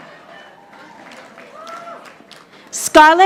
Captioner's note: audience applauding